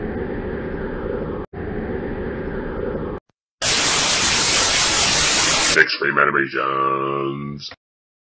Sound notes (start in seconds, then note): 3.6 tv static